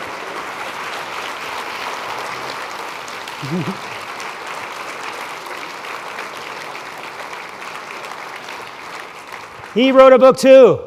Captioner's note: applause